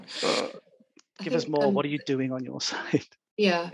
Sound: laughs

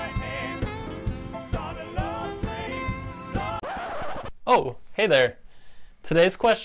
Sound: record scratch

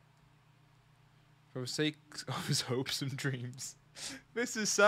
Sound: laughs

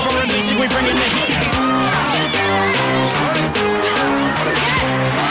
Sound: contestants yelling

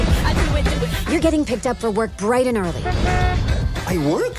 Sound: horn honks

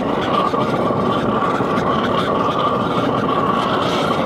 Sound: fire roaring

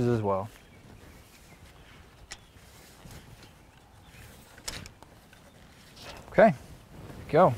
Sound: shuffling of boots on dirt, pencil marring wood, no additional audio

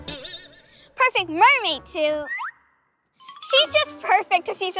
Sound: animated sound; animated sound

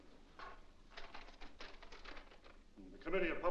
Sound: paper rustles

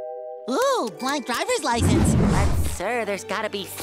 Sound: none

